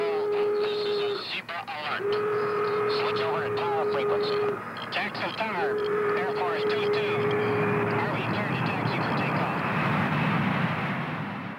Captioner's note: control tower radio messages